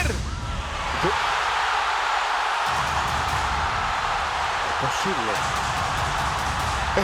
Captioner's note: applause